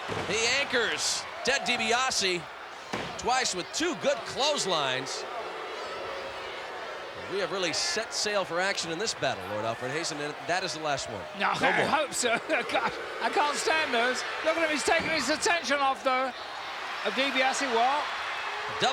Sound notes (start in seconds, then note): 11.3 laughs